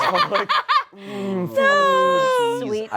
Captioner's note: laughs